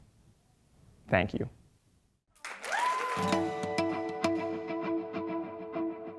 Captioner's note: applause